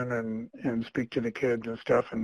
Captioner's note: clears throat